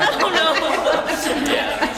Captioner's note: conversation; laugh